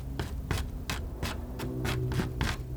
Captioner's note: scratching